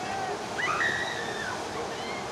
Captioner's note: screams